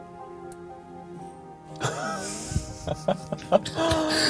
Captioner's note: laughing